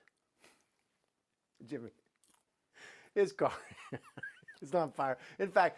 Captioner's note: laughs